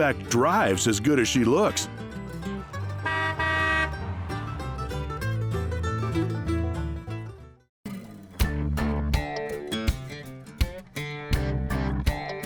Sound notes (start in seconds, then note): 2.8 car honks; 8.4 upbeat music